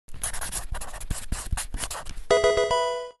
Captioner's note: pencil writing; Pokemon game sound